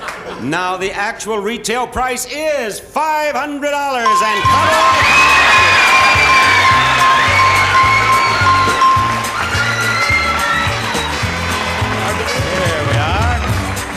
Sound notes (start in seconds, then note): 4.9 audience applauding and cheering; 5.9 bell ringing; 5.9 upbeat music